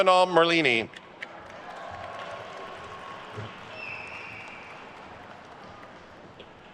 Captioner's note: attendees cheering and applauding